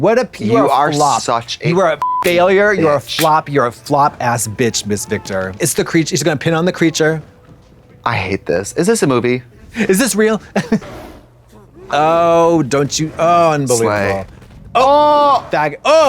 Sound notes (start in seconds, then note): 2.0 beep